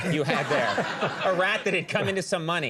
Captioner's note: audience laughs